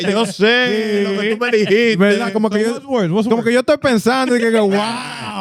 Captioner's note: speaking Spanish